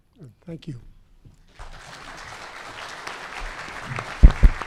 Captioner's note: clapping